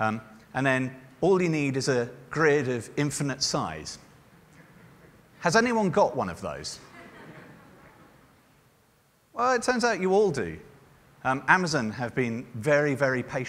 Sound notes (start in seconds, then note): 6.8 laughter